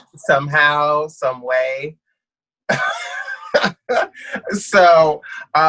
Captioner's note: laughs